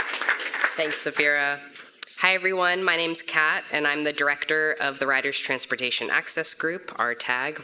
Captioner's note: applause